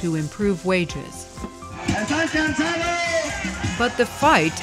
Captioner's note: screaming of protest leader